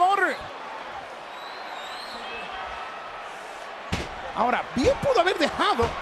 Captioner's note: applause